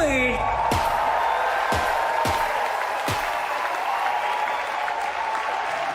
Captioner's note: audience cheering, confetti